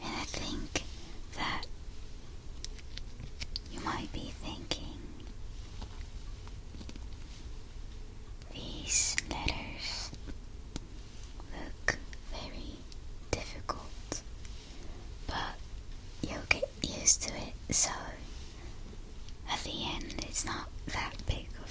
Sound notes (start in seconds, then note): none